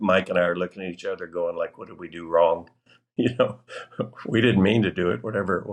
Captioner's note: laughter